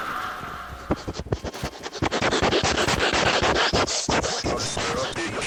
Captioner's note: snifffff